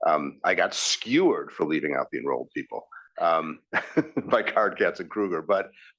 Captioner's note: laugh